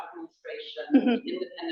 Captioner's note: laughter